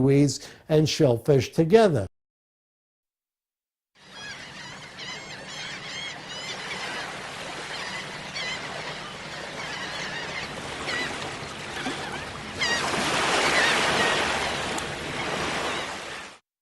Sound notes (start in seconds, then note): 4.0 seagulls Cawing